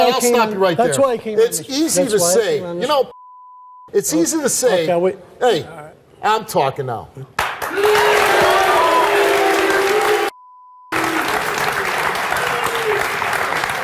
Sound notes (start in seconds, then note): 7.6 audience applauds